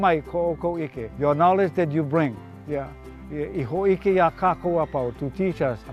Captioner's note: speaking Hawaiian; speaking Hawaiian